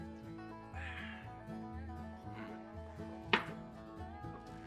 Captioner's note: exhales sharply